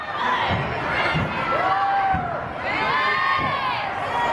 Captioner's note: crowd cheering